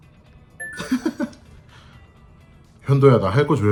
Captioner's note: cracking up